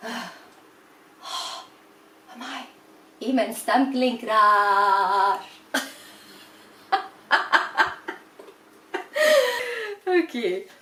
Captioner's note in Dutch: zucht; lacht